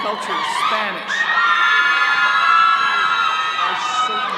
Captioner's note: all cheering